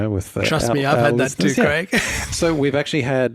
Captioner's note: chuckles